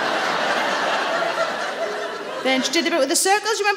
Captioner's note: audience laughing